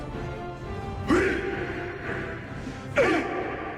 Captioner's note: all chanting in dwarven